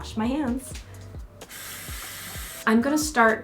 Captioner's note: water running